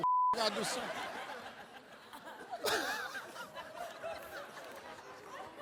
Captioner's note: beep; audience and Steve laughing